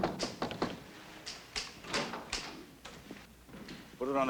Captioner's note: knocks on glass